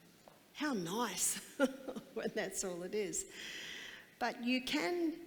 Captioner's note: laughs